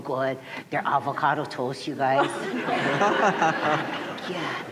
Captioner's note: laughter